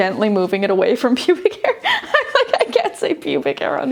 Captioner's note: giggling